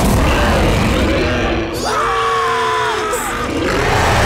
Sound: roaring; screaming; roaring

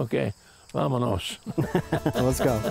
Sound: laughter; upbeat music

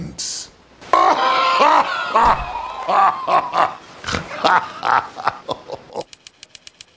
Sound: Chibi ray laughs

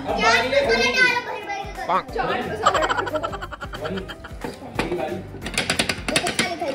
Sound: laughter

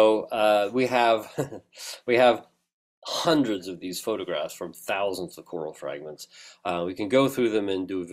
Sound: laugh

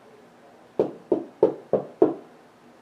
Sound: quiet knocking

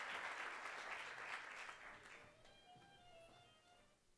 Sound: applause

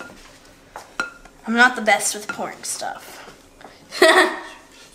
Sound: laughing

